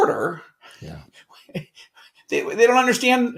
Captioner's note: chuckling